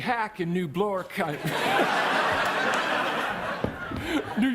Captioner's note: audience laughs